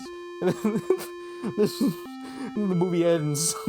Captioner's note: laughter